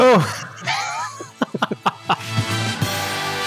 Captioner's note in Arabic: يضحك; موسيقى الروك